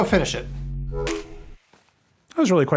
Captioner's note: beeps